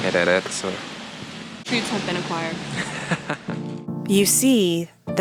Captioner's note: laughs